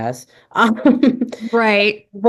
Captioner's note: laughs